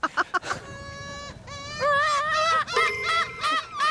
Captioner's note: interrupting seagull cry